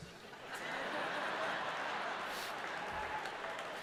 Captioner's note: crowd laughing